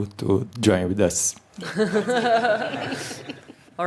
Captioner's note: laughter